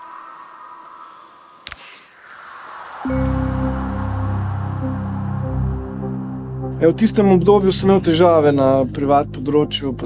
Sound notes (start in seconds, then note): 1.6 click